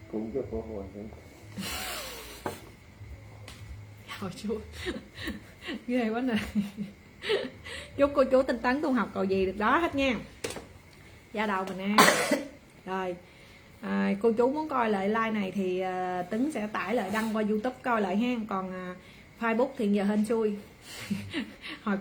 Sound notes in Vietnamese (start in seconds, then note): 6.2 tiếng cười